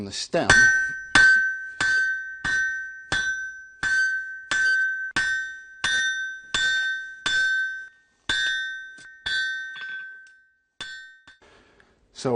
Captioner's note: hammering